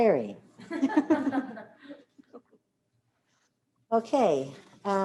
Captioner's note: laughter